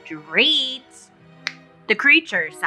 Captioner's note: snaps